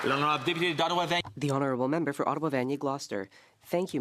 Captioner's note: applause